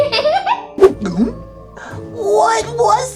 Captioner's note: gulps; laughs